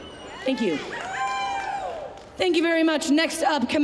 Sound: applause, cheering

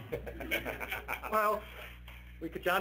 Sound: laughing

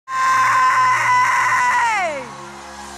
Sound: screaming

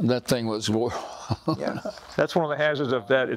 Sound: laughs

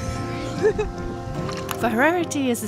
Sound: laughing

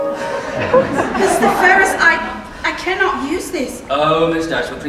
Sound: laughter

